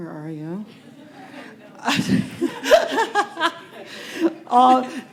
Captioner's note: laughter